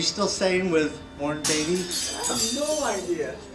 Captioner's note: glass shattering